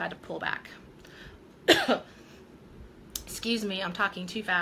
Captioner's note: coughing